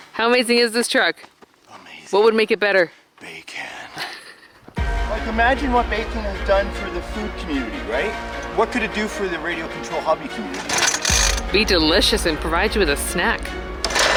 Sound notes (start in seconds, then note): 4.0 laughing; 5.2 dramatic orchestral music; 10.8 RC engine turning over